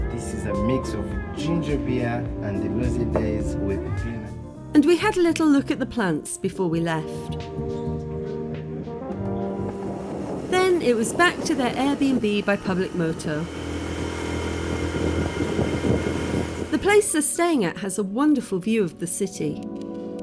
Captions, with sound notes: This is a mix of ginger beer and Hazy Daze with... And we had a little look at the plants before we left. Then it was back to their Airbnb by public moto. [motorbike and wind] The place they're staying at has a wonderful view of the city.